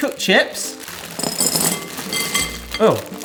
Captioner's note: frozen fries thudding